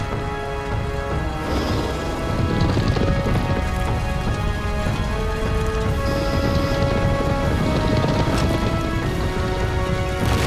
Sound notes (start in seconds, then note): 2.3 trotting